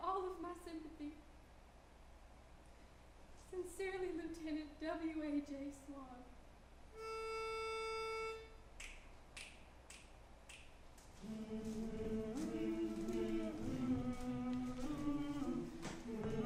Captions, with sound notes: have all of my sympathy. Sincerely, Lieutenant W.A.G. Swan. (soft organ music) (fingers snapping) (students humming traditional song)